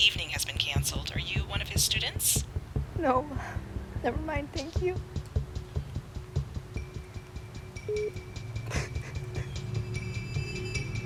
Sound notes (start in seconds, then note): 7.8 line beeps; 8.6 sobbing